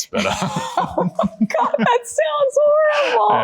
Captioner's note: laughing